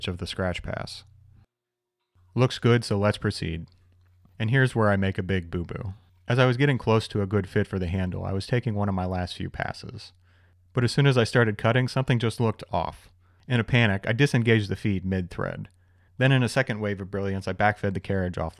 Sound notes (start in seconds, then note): none